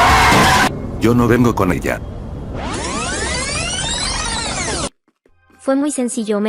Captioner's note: rewinding